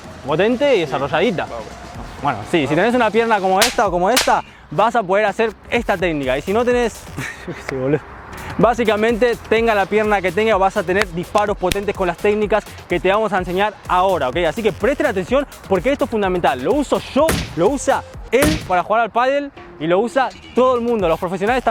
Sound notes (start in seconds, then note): 7.1 laughter